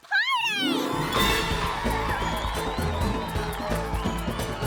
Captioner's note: all cheering